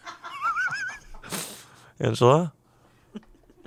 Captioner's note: laughs